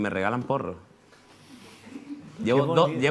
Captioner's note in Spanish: Risas